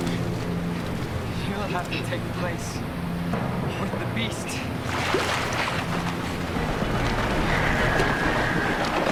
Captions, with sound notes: You'll have to take the place for the beast. (splashing)